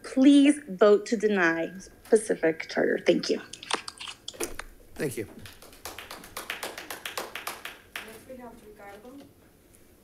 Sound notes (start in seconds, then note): 5.0 audience applauding